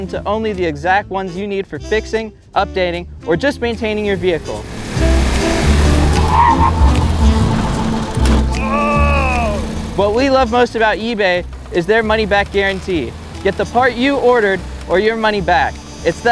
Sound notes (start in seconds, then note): 5.0 engine rattling; 5.0 tires screeching; 8.6 groans